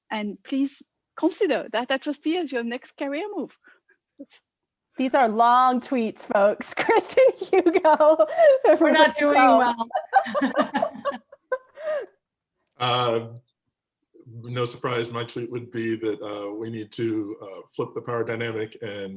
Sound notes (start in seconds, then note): 8.0 laughs; 9.7 laughter